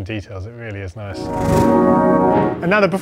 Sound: musical whoosh

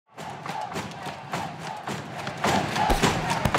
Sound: audience cheering

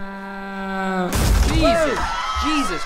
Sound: loud crashing; people screaming

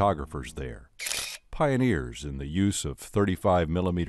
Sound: shutters clicking

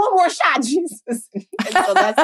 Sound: chuckles; laughing

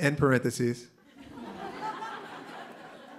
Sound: laughter

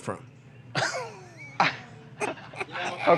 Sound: laughter

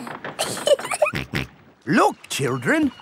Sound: giggling; snorts

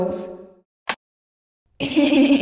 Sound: click!

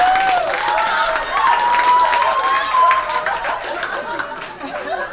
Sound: audience cheers and applauds

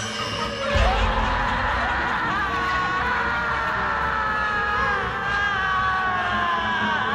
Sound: banshee sobbing; tense dramatic music

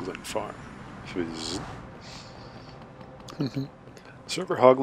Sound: hn hnn

